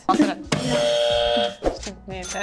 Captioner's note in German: ka-tsching; Buzzer falsch